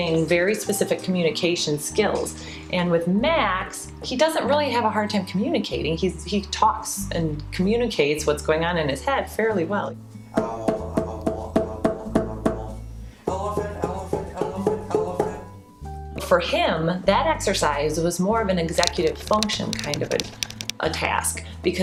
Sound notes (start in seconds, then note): 12.2 higher-pitched